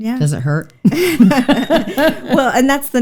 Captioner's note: both laughing